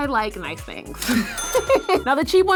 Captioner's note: laughing; cash register dings